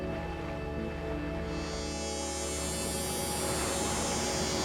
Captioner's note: water splashing